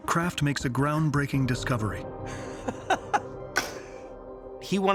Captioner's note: laughing